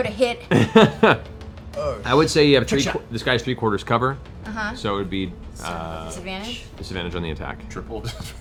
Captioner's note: laughs